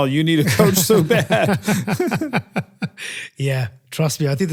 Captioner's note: laugh